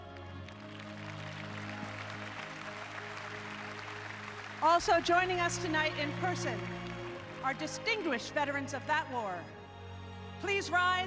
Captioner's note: applause